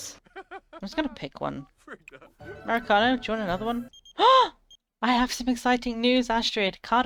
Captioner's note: gasps